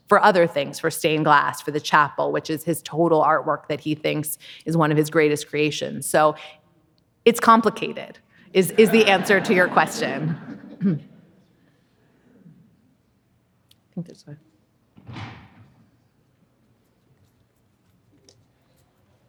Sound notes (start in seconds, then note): 8.6 audience laughing